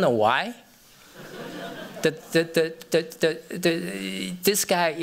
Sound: laughter

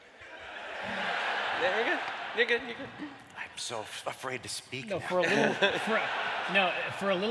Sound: laughter

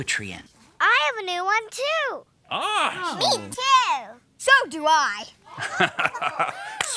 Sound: light laughter

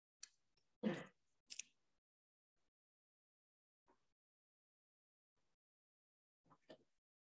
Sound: silence

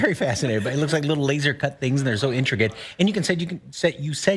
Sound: laughter

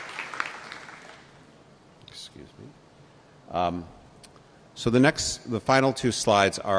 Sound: applause

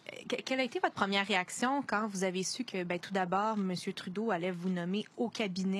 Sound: speaking French

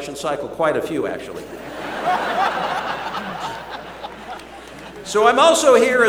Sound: laughter

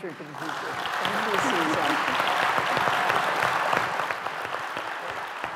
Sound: applause

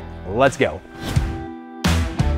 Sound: air whooshes; rock music

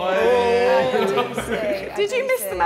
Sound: Sidemen laughing

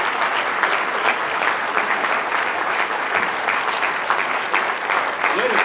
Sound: applause

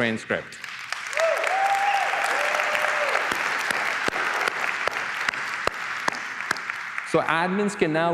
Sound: applause

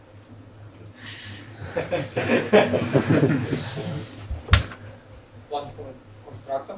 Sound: laughter

